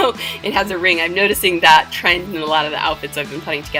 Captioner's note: giggle